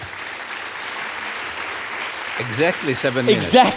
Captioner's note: audience applauding